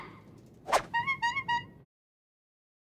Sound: bicycle horn honks

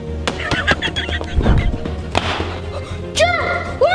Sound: giggling

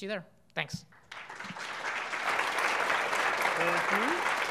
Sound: audience applauding

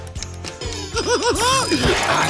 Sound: giggling

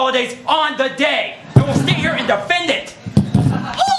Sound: fireworks explosions

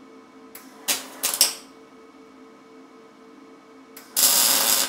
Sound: tool crackles

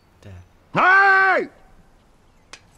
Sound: yells

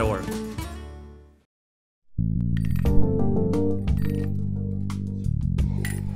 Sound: rattle reel chiming

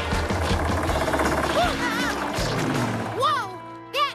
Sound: engine Rumbling; yelps

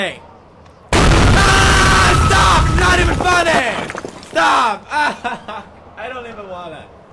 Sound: screams

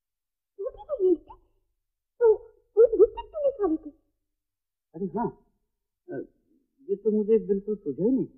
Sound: none

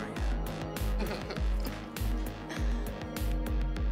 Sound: laughter

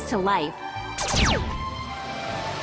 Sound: animated gunshot sounds

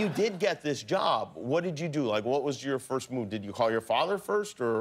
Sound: laughter

